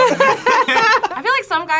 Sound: both laugh

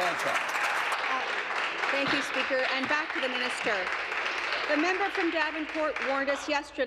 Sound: applause

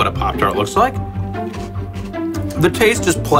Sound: crunching

